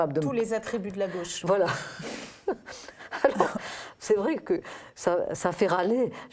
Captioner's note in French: rire